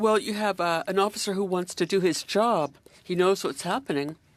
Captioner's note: speaking French